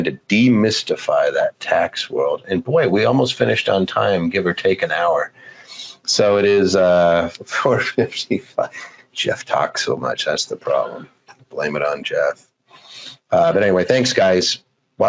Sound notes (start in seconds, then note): 7.4 laughs